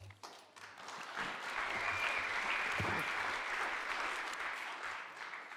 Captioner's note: audience applauding